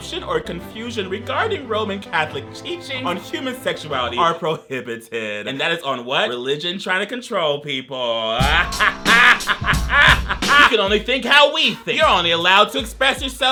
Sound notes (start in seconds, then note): 8.4 laughs